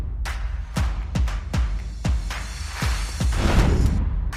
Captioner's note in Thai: ปรบมือ